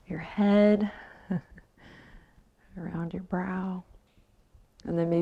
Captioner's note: chuckles